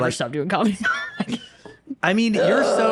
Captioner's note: laughing